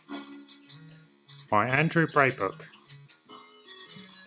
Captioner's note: silly voice